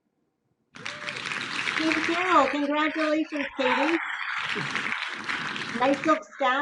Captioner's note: clapping